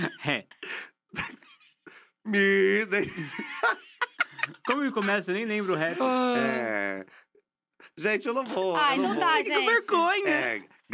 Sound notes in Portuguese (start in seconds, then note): 2.9 risos